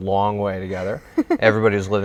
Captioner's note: laughing